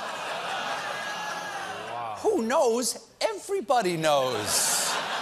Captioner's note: audience reacts